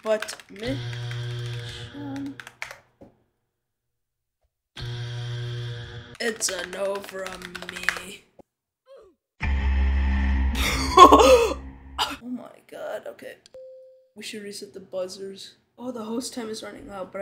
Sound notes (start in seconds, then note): 0.8 buzzer; 4.8 buzzer; 9.4 heavy buzzer